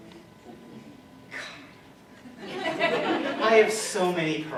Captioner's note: laughter